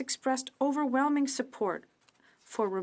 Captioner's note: speaking french